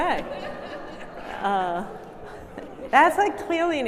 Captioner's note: audience laughing